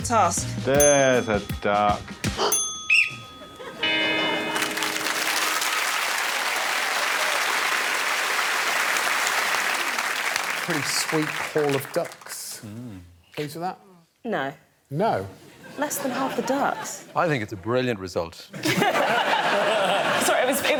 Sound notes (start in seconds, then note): 2.7 gasps; 2.8 Alex blows whistle; 6.5 cheers and applause; 18.5 laughter